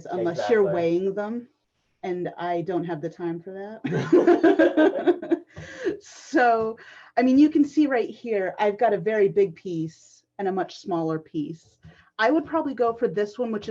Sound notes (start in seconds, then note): 3.8 laughter